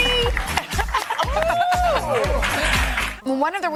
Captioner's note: all cheering